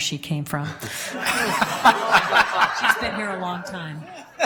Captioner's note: laughing